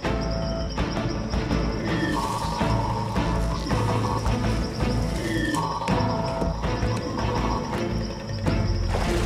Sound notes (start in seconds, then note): 1.9 chatters